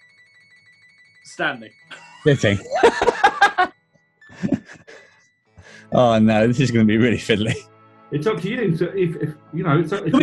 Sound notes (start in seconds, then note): 1.9 laughter